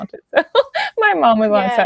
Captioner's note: laughs